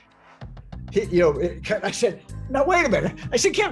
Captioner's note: laughing